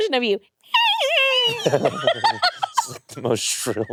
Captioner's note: shrills